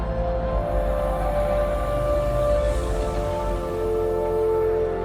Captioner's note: aircraft engines rumbling